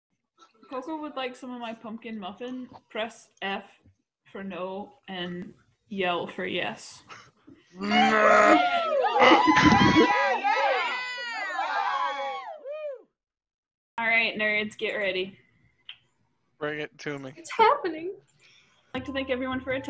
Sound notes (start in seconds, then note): 7.8 yelling